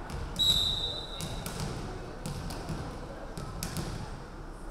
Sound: referee whistling

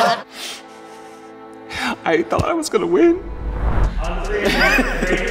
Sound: fake sobbing

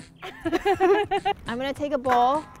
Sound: laughing

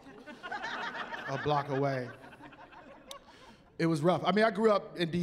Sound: laughing

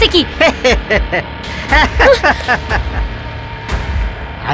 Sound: laughs

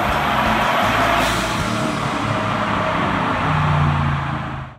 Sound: soulful music; engine revving

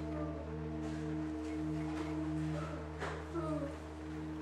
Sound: mumbling

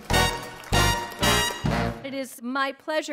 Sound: applause

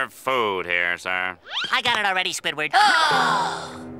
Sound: gasping

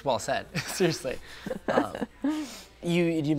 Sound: laughs

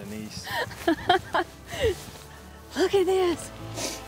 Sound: laughing

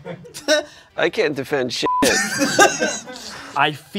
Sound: laughter

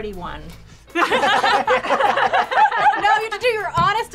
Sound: everybody laughs

